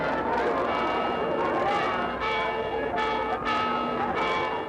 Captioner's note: church bell chiming